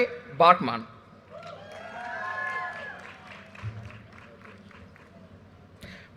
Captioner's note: audience cheers and applause